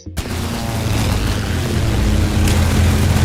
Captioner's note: plane engine in the back; plane engine flying over